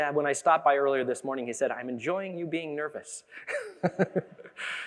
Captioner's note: chuckles